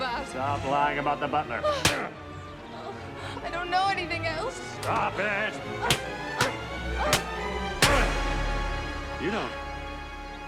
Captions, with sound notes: Stop lying about the butler! (GASPS) Oh. I don't know anything else! Stop it! (GROANING) You don't...